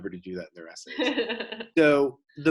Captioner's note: laughs